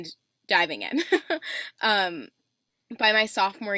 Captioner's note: laughs